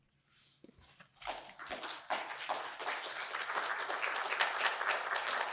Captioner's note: audience applauding